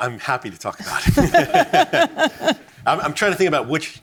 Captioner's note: laughs